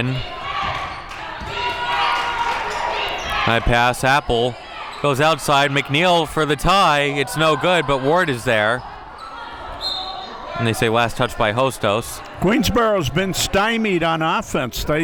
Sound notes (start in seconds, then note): 9.8 whistle blows